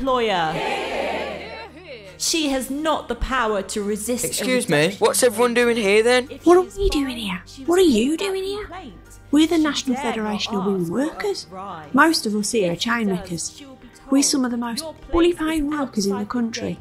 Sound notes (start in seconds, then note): 6.0 whispers